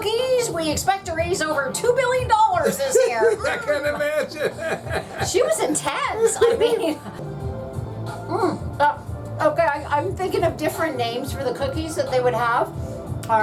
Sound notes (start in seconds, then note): 2.6 laughing